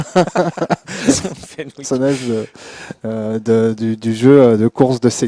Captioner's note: laughs